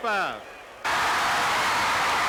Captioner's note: crowd cheering; crowd chatter